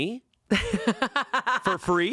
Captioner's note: laughing